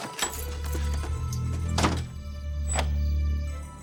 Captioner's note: lock Clicks